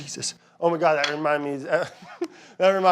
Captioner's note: laughing